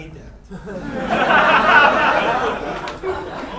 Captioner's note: laughing